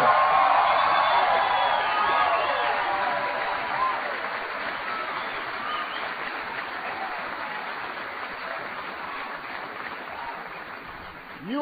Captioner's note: applause